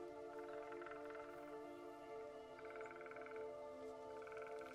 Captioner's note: birds chattering